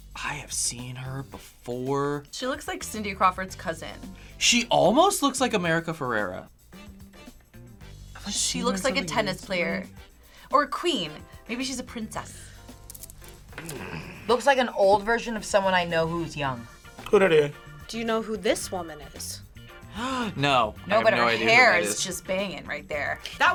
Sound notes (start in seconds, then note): 13.5 groans; 19.5 gasps